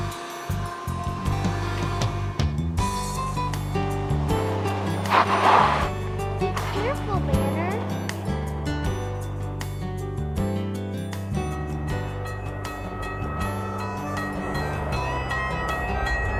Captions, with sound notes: (tires screech) - Careful, Banner. (train bell ringing)